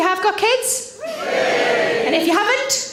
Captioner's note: audience Cheering